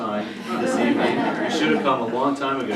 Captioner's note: laughter